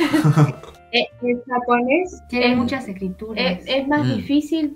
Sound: Spanish

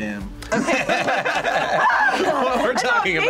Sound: both laugh

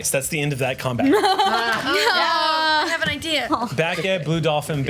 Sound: cheers

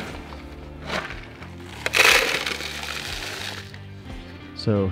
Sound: galena crunching

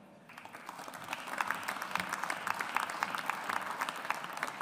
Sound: audience applauds

